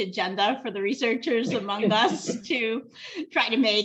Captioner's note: laughter